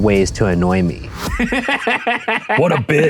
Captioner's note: laughing